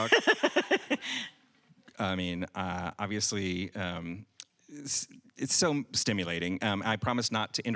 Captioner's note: laughing